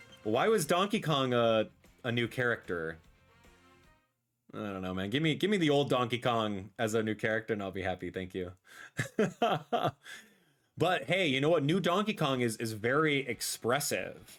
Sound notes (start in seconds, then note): 8.9 laughs